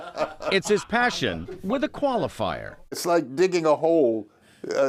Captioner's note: laughter